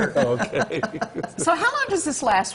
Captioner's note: laughter